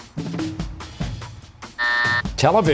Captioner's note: buzzer